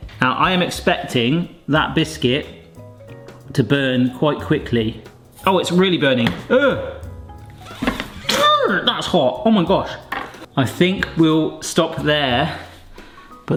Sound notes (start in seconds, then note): 6.3 groans; 8.2 yells